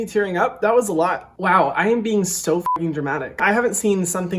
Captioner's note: beep